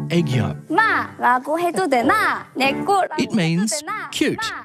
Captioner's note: speaks korean